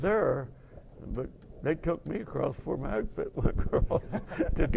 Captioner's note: laughing